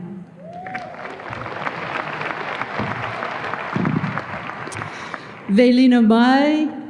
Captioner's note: audience applause